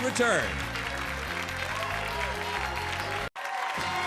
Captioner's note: audience applauds; upbeat music